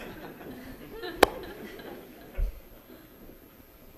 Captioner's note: audience laughing